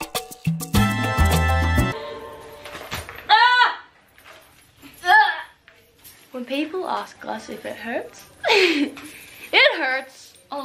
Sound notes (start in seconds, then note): 3.2 shrieking; 8.4 laughs